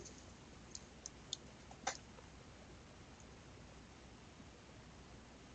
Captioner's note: mouse clicking